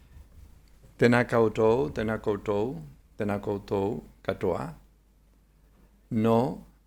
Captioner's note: speaking in foreign language